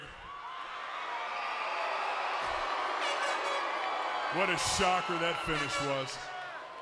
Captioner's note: crowd chatter